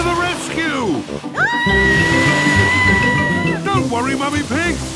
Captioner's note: screaming